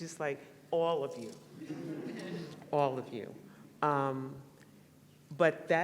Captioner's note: laughter